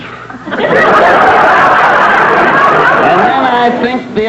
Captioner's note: audience laughter